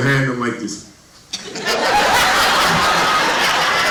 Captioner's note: laughter